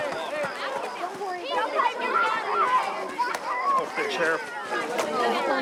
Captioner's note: people clamoring